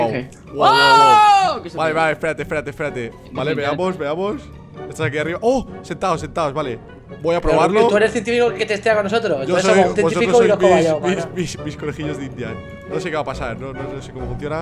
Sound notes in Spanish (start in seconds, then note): 0.6 Grito